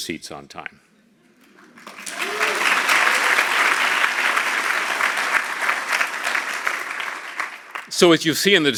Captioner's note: applause